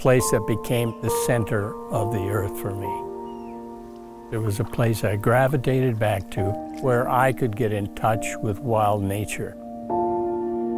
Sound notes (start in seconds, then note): 3.1 eagle chirping